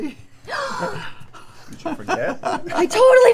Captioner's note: gasps